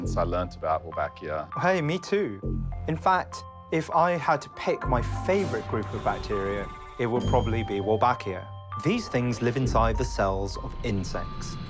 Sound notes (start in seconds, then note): none